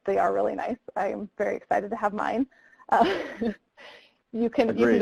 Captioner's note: chuckles